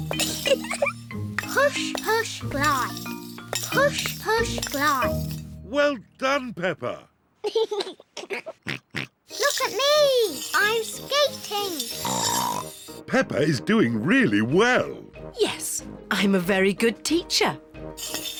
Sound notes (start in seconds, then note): 0.2 giggles; 7.4 giggles; 12.0 snorts